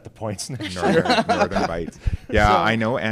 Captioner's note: laughs